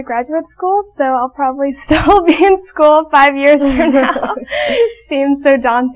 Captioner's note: laughing